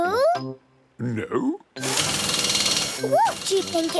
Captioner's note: drilling